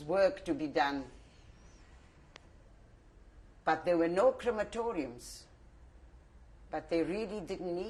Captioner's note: pauses for 3 seconds